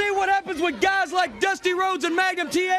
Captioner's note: crowd cheering